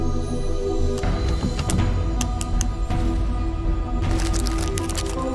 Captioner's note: eerie ambient music plays; card tapping; paper rustles